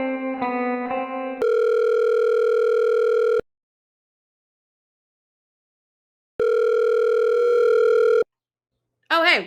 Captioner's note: phone Rings